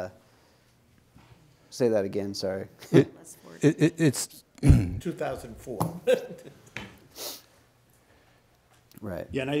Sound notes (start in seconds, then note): 3.6 chuckles; 7.6 chuckle